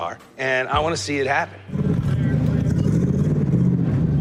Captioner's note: engine rumbling